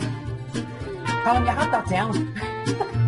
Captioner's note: laughs